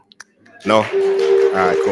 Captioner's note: applause